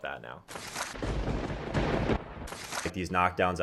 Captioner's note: lightning crashes